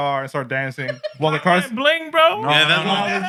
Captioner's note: non-english Speech